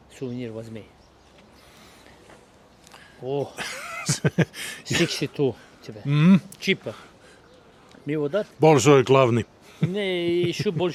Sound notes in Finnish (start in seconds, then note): 3.5 naurua